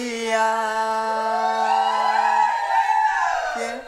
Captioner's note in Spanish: Vítores